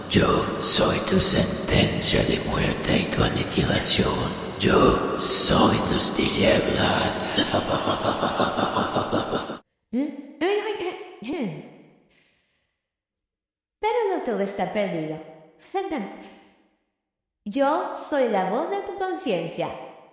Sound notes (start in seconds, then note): 10.5 clearing throat